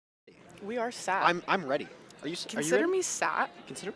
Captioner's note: none